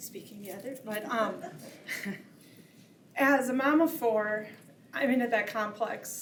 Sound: chuckles

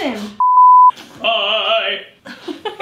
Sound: beep; laughing

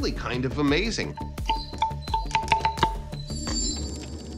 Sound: pillars ringing

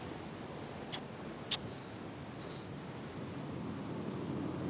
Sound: lips smooching

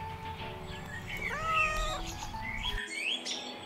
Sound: Pam meows

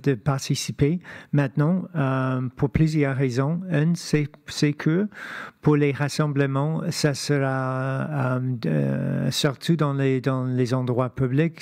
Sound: speaking French

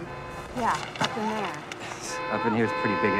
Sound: horn blaring

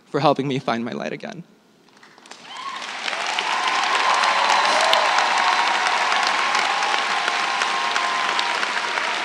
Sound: applause

